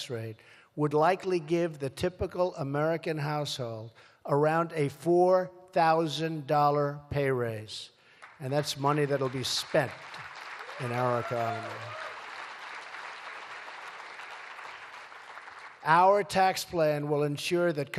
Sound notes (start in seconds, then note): 13.1 applause